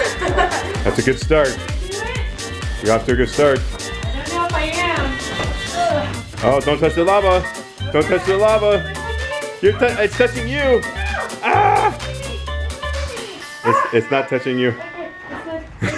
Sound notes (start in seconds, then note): 11.4 screams; 15.0 laughs